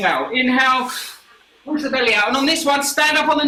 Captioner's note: inhales sharply